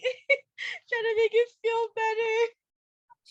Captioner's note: laughter